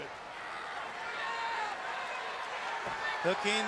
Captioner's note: crowd cheering